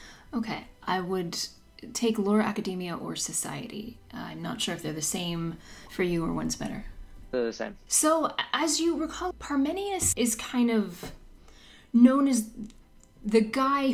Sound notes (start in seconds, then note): none